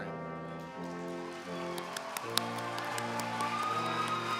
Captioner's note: applause